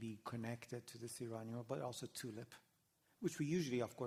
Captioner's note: non-english